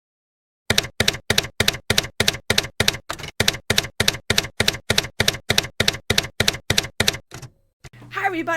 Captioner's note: typewriter keys clacking